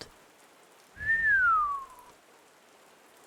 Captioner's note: whistling